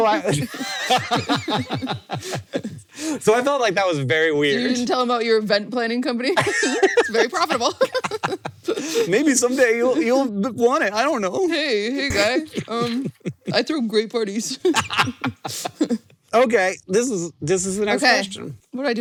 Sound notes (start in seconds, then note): 0.1 laughs; 6.4 both laugh; 14.7 cackles